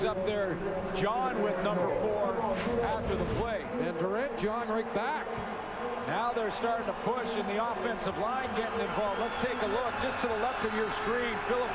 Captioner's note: applause